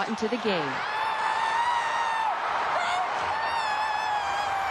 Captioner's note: cheering